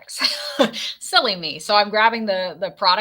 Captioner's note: laughs